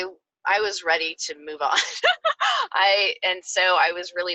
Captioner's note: laughs